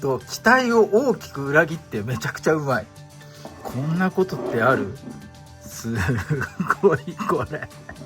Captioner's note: laughs